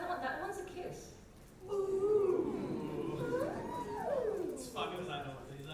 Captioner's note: audience oohs